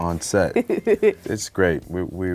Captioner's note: laughing